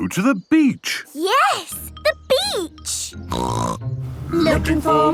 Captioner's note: snorting